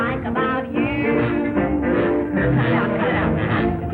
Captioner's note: blatts